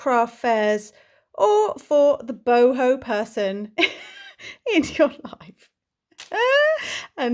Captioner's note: laughs